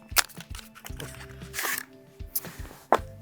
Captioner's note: card box rustling